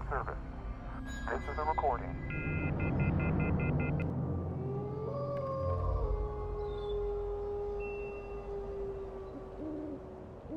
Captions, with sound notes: - [Voiceover] The number you have reached is not in service. This is a recording (beeps). (animal howls)